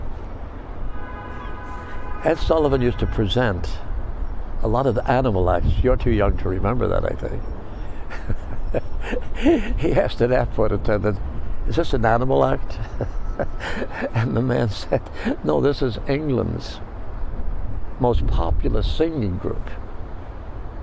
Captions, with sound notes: Ed Sullivan used to present a lot of animal life, you're too young to remember that, I think. [laughing] He asks to that flight attendant, is this an animal act? And the man said, "No, this is England's most popular singing group."